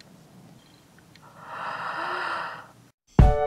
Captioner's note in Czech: Hluboké nadechnutí